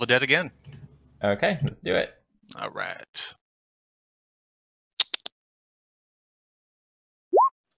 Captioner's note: chattering noises